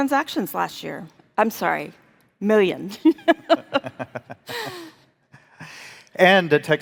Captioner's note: chuckling